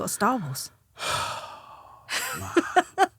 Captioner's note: Romesh sighing; laughing